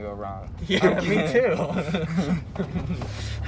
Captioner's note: laughs